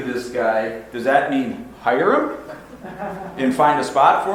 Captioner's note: audience laughs